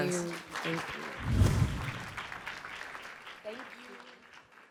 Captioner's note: applause